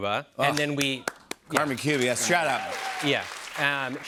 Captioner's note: cheers and applause